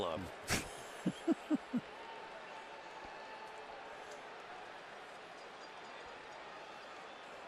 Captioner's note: laughs